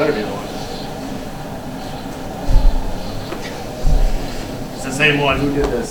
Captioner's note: wind blowing